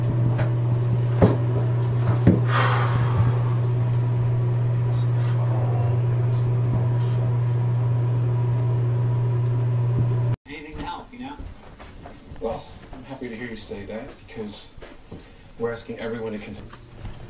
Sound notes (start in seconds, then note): 2.5 man sighing